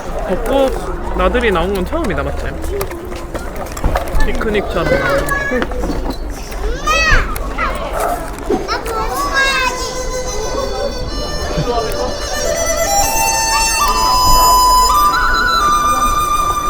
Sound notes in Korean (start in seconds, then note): 6.0 오물오물